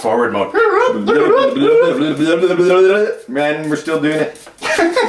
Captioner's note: imitating sped up audio; laughing